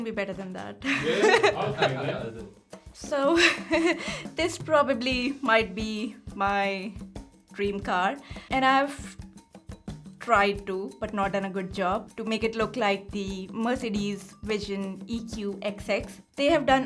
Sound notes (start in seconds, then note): 0.8 laughing